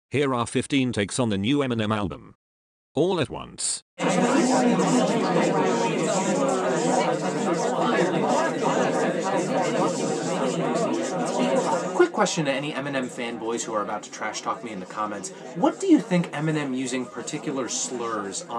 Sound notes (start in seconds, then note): 4.3 chatters